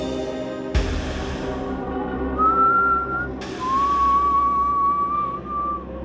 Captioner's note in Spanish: Silbidos